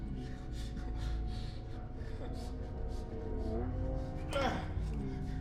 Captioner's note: heavy breathing